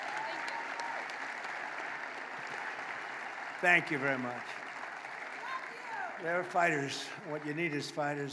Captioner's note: applause